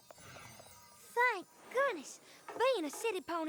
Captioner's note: normal voice